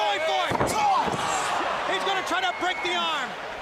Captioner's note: crowd chatter